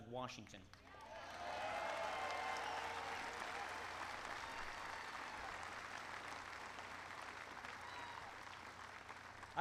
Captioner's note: applause